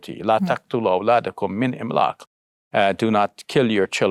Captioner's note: speaking in foreign language